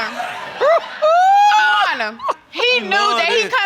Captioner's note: hoots